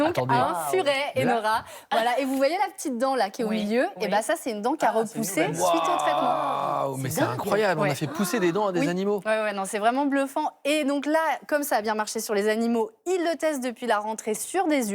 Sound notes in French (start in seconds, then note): 0.0 rires; 7.8 rires